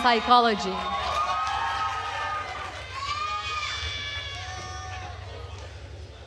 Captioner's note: attendees cheering and applauding